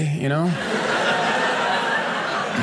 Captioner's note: audience laughing